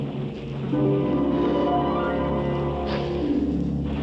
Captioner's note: sobbing